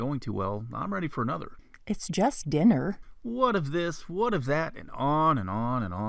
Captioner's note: man's voice